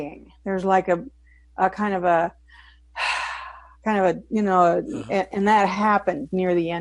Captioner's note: sighs